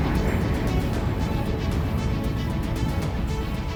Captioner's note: jet whooshing